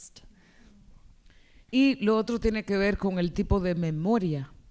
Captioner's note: speaking spanish